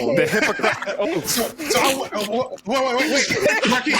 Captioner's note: laughing